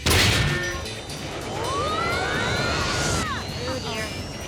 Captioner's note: all screaming